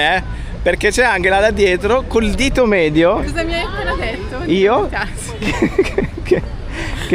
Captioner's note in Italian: risate